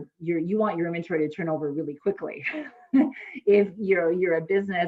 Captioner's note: laughs